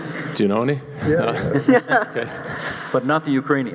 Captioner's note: voiceover